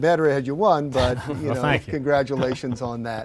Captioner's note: laughs